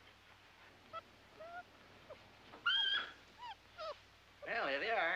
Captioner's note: puppies whimpering